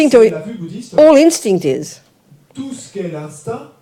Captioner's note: French